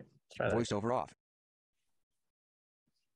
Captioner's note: voiceover